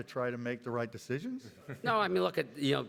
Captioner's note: everybody laughs